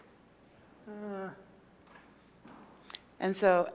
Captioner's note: groaning